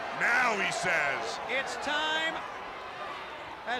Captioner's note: crowd chatter